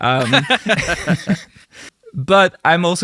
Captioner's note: both Laughing